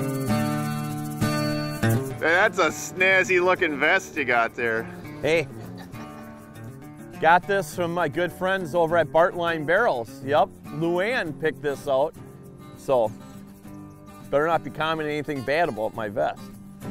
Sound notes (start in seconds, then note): 2.0 voiceover